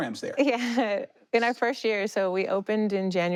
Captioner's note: chuckles